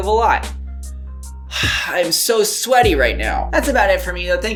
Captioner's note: sighs